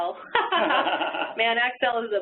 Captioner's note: laugh